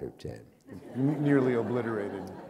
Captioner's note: laughter